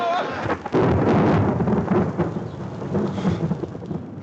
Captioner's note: thunder cracks